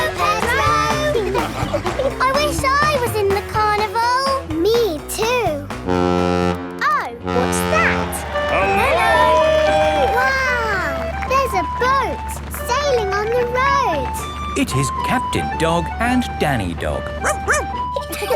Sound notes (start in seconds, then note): 7.2 horn bellowing; 17.2 barks